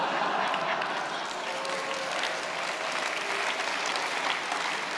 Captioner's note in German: Lachen, Applaus